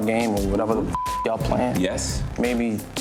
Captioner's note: beep